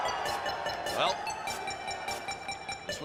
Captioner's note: crowd cheering